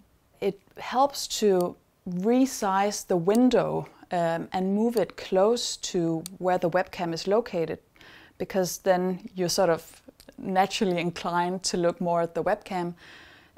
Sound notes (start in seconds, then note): none